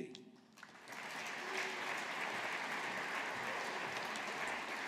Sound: audience applauding

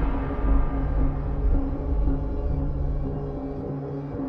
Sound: sounds pulsing

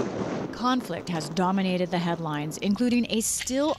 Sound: voice-over

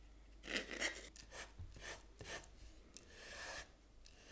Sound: spatula scratching

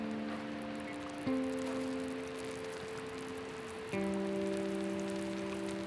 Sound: gentle music; molten liquid crackling; gentle music

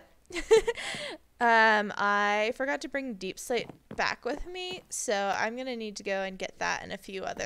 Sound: laughs

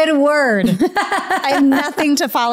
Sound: laughing

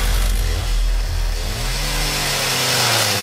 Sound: chainsaw

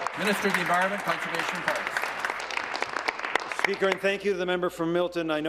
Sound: applause

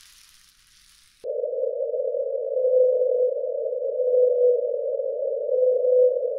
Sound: echoing humming frequency

